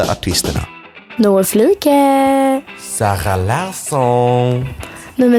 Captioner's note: with French accent